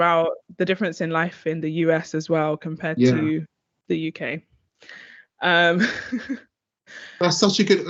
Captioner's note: chuckling